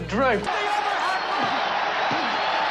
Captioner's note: cheers